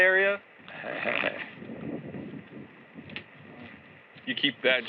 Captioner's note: chuckles